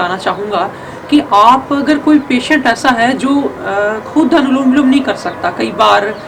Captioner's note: alternate nostril breathing